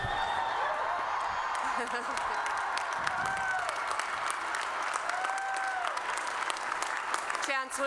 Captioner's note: applause